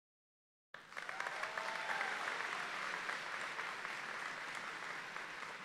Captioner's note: audience applauding